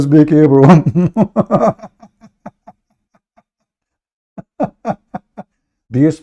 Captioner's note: Ketawa